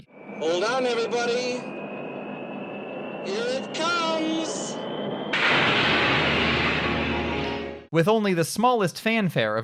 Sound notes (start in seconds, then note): 5.1 glass shattering